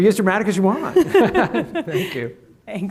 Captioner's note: laughter